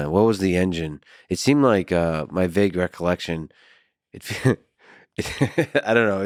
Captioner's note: laughs